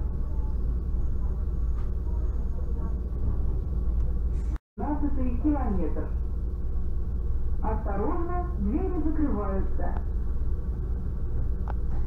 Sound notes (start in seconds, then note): 2.5 sound of train; 4.8 sound of PA; 8.1 sound of PA: Attention, doors close!